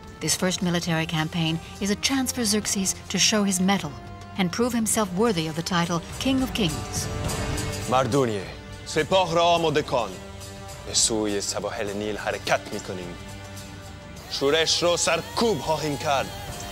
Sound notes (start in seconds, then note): 7.8 Xerxes speaking in foreign language